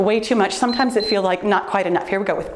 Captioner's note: timer beeps